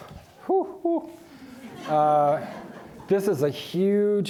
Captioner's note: audience laughing